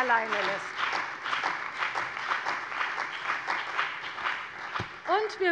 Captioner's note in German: Beifall bei der CDU und dem BÜNDNIS 90/DIE GRÜNEN